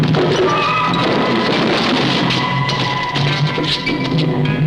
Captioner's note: thudding